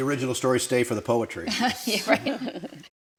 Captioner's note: laughs